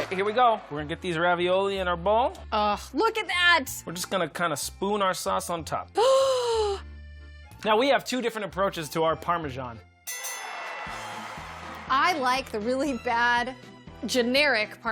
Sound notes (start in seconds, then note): 7.4 gasps; 10.0 bell dings